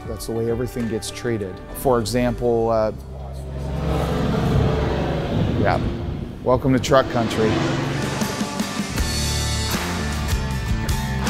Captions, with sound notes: That's the way everything gets treated. For example- (truck engine roaring) Welcome to truck country. (upbeat music)